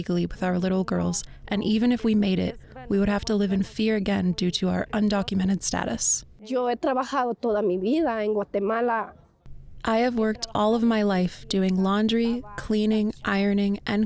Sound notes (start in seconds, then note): 6.6 speaking in foreign language